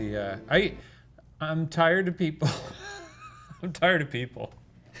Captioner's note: laughing